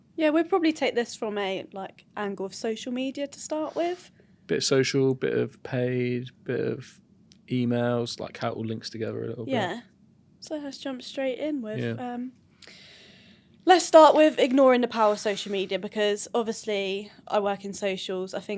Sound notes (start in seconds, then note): none